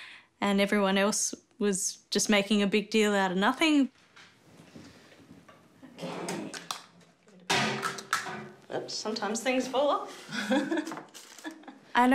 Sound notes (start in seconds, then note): 7.5 clattering, thudding; 10.2 laughs